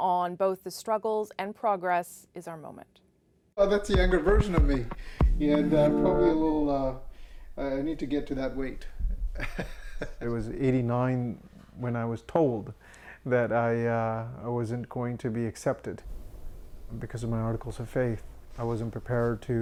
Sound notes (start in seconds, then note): 9.3 laughter